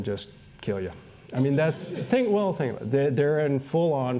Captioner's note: laughter